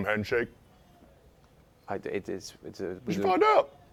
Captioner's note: stammers